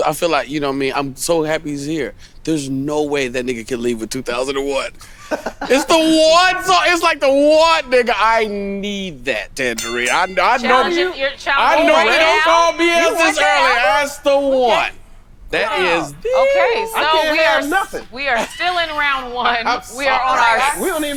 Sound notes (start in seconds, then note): 11.5 chatter